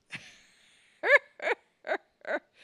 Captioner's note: Leia cackles